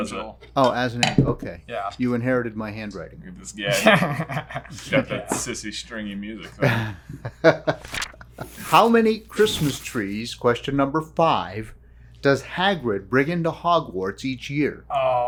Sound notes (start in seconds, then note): 3.7 laughing; 6.6 laughing